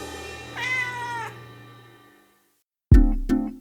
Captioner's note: cat meows; offbeat uplifting music